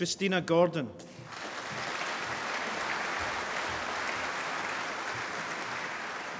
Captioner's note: applause